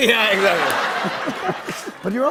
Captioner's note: laughter